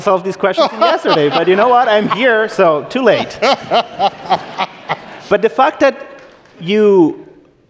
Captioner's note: laughter